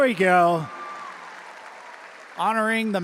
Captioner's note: audience applauding and cheering